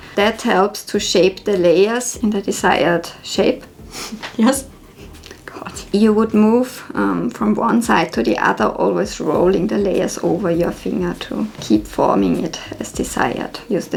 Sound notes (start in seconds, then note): 4.5 laughs